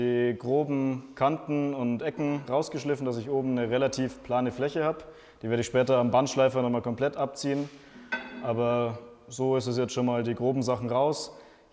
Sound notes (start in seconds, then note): none